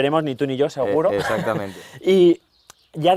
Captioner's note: laughs